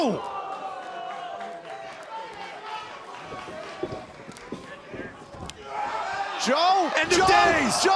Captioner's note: crowd cheering